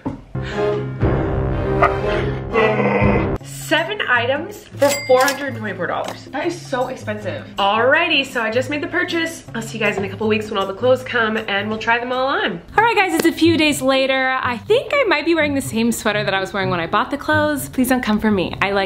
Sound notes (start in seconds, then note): 0.3 dramatic music; 1.8 groans